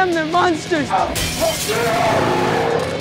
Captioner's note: glass shatters; growls